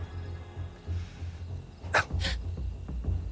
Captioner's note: gasps